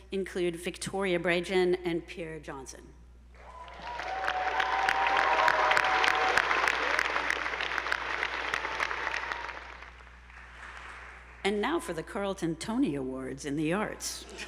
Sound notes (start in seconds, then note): 3.4 audience whooping; 3.4 attendees applauding